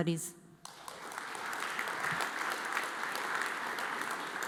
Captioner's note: audience applauds